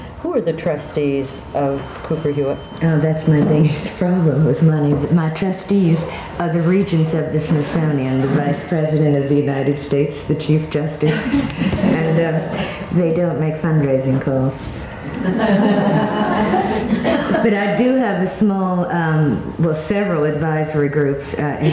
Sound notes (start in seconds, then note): 11.0 audience laughs; 15.2 laughs